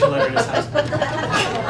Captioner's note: laughing